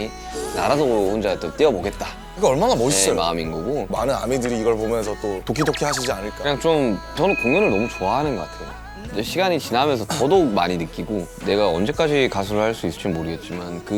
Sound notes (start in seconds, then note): 5.6 pit-a-pat